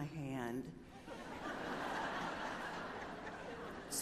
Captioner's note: laughter